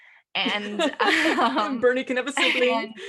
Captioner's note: laugh